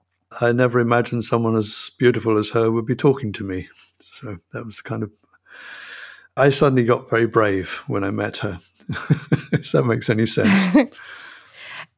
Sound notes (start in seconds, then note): 8.6 chuckles